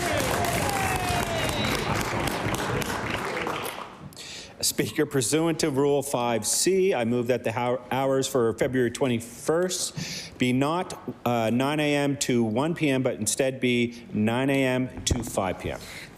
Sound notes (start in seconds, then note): 5.0 applause